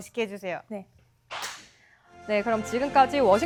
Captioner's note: clap!